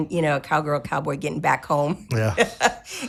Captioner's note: laughing